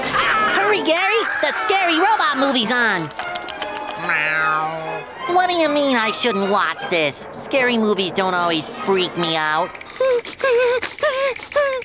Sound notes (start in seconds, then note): 4.0 meowing; 9.8 whimpering